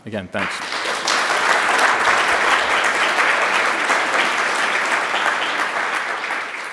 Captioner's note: applause